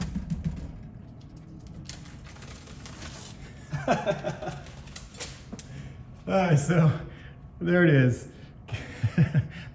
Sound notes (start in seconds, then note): 3.7 laughs; 8.7 chuckles